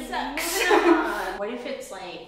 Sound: women laugh

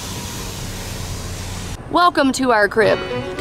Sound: window rolling down

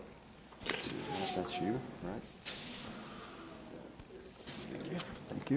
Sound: murmuring pleasantries

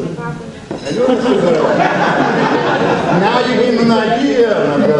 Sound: audience laughs

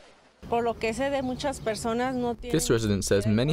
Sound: speaking in Mexican

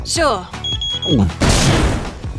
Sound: bomb beeping

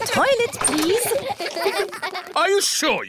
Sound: kids giggling

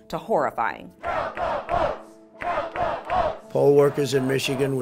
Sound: chant

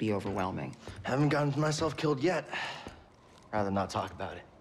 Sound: exhale

